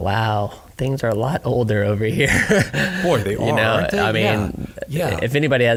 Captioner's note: laughing